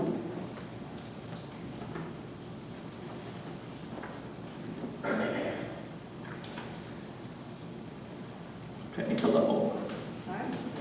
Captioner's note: papers shuffling